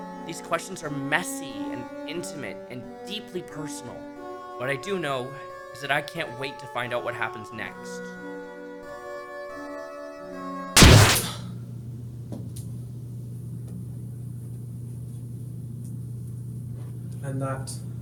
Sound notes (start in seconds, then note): 10.8 Deltarune SOUL rip sound